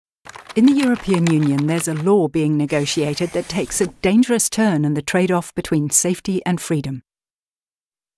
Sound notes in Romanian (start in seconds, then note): 0.2 Aplauze